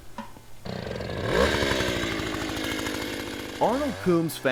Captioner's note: motor starting